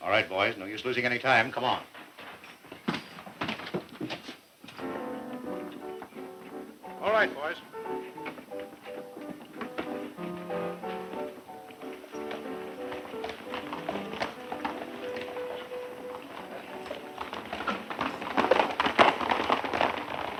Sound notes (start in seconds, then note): 3.2 footsteps walking; 3.2 upbeat music